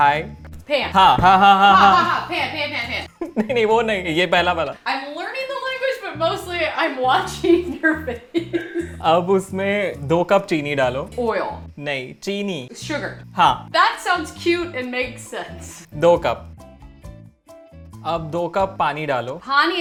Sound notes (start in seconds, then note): 0.1 speaking in Hindi; 1.8 both speaking in Hindi; 3.6 speaking in Hindi; 9.1 speaking in Hindi; 16.1 speaking in Hindi